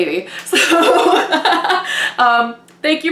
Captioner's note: laughing